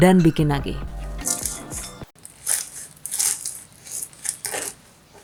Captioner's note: crunch